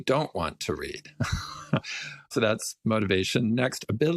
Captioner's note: laugh